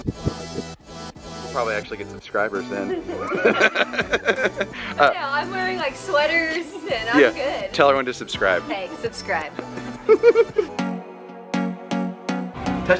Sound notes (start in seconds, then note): 2.8 laughs; 10.0 laughs